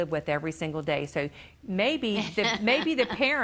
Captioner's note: laughing